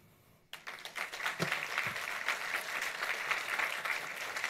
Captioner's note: audience applauds